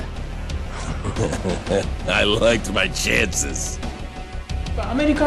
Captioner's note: laughter